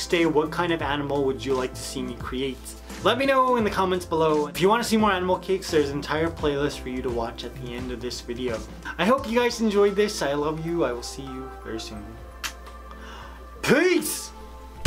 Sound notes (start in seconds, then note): 12.4 kissing